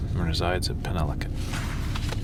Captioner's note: sound of page turning